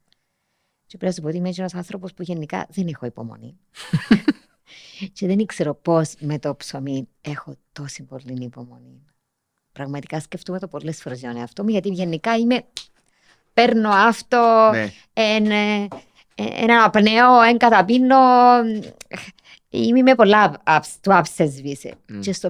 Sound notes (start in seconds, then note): 3.8 he laughs; 12.7 clicks